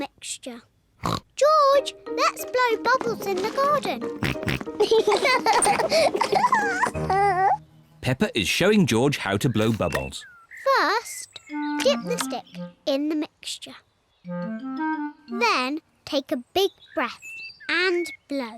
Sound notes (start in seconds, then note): 0.3 oinks; 3.1 both oink and laugh